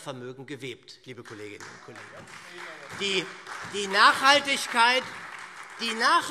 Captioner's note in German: Beifall SPD und Freie Demokraten - Zuruf